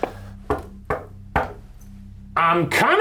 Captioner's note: knocking